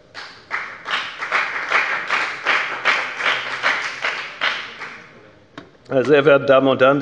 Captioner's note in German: Beifall bei der FDP